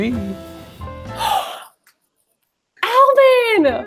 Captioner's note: gasping